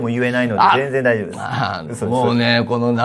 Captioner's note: laughs